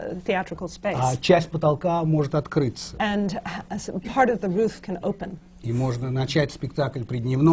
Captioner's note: foreign language not transcribed